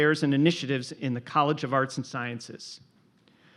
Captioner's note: none